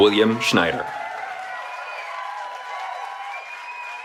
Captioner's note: cheering